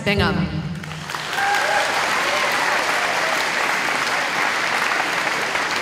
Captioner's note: audience applauding